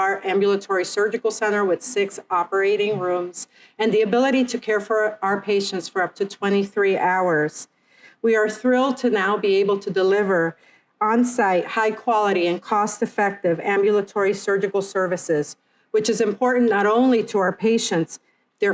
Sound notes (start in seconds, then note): none